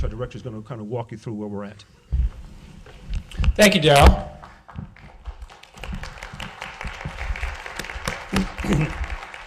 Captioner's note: applause